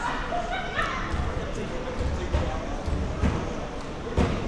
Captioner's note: spectators shouting; spectator laughing